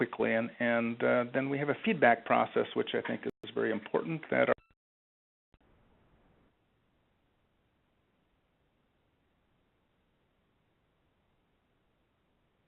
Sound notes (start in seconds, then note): 6.1 audio cuts out